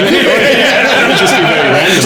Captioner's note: all laughing